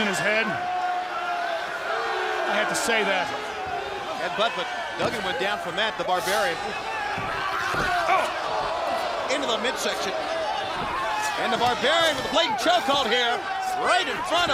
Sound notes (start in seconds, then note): 0.0 crowd cheering; 8.6 crowd chatter; 11.5 crowd chatter